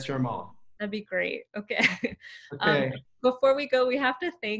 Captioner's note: laughs